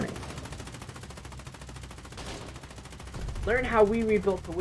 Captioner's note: machine gun fire